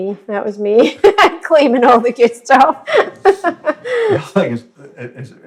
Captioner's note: laughs